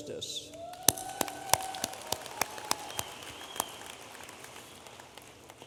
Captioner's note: audience applauding